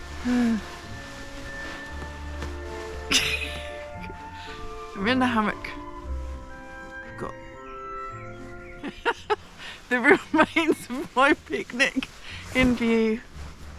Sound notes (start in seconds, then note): 0.0 laughing; 3.0 more stupid laughing; 8.8 laughing